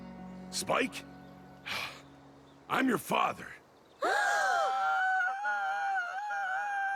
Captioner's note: sigh